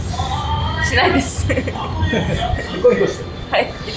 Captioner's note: laughs